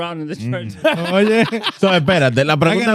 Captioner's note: laughing